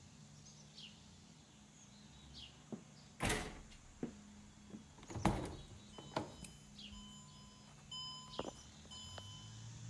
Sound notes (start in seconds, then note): 3.2 trunk door bangs; 5.5 car beeping